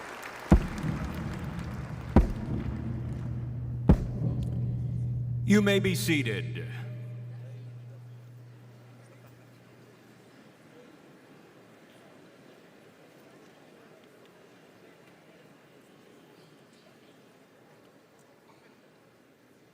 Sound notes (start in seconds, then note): 2.0 mace pounding